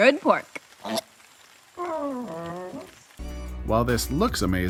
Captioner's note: makes sad noises